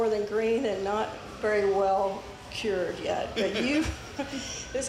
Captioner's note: laughs